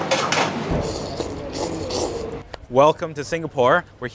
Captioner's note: bowl clanking; slurping